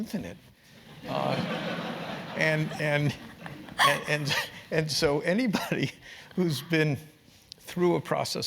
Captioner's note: laugh